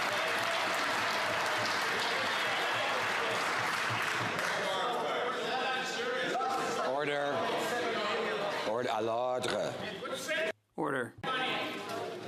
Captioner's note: some Applause